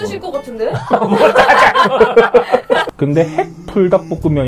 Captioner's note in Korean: 웃음